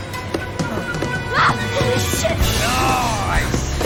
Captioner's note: screams